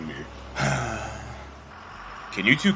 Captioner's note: Scott sighs. He turns over to Camille & Madeleine